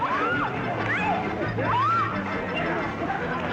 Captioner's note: women screaming